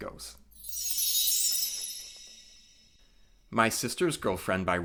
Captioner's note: chime sound